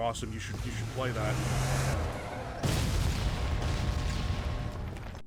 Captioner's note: car crashing and explosion sfx